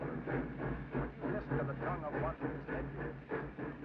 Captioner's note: train chugs